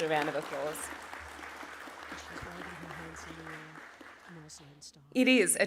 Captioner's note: applause